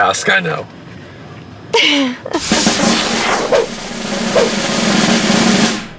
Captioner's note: laughs